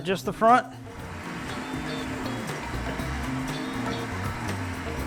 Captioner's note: winch rumbles